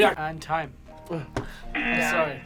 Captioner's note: thumps